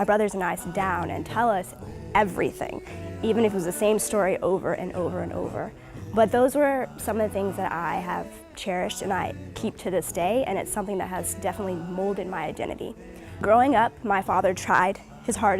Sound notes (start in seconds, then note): none